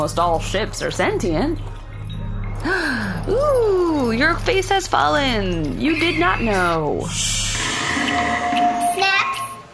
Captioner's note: worried gasp